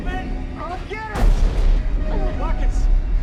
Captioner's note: booming